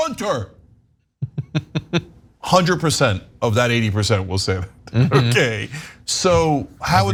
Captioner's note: laugh